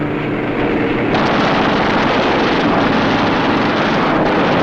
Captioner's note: guns firing